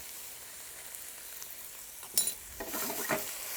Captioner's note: pan sizzling